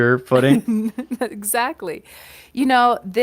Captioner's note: chuckle